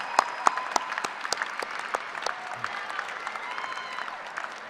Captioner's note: cheering and applause